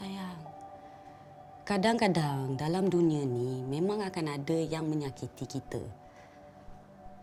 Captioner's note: in Bahasa Melayu